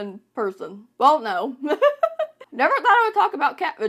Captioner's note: laughs